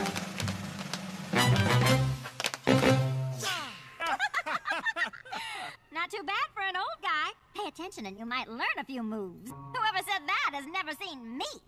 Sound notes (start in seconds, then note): 3.5 both laffing